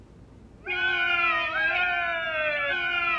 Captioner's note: yelling